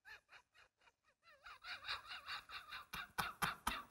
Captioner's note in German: lacht